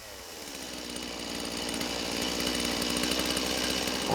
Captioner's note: engine rumbling